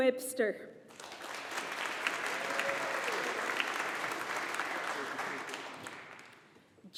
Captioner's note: audience applauding